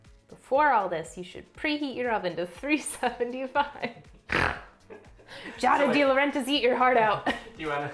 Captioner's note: snorts